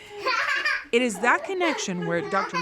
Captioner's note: child laughing